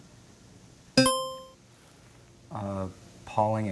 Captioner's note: buzzer chimes